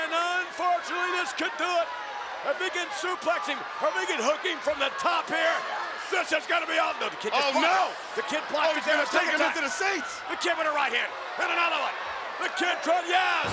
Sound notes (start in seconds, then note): 8.4 audience chattering